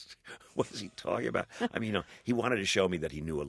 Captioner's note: soundbite of laughter